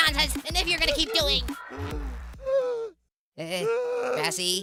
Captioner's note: grassy sobs